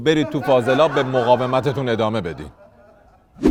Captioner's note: laughter